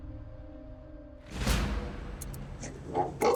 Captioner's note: clock ticking